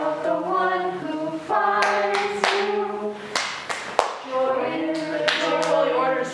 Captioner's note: clapping